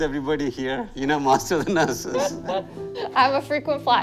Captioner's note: laughter